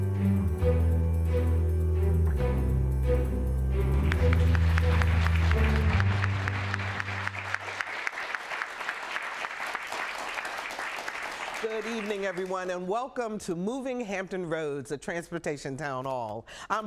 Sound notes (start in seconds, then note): 7.0 applause